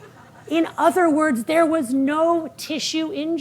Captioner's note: audience laughing